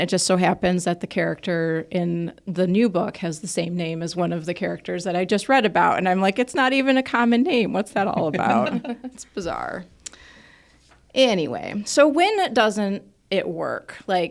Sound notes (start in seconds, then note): 8.0 speakers laugh